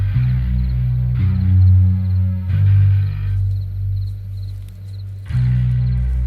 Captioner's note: dark music continues; crickets chirp